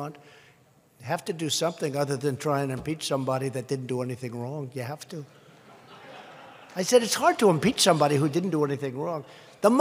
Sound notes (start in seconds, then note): 5.4 laughter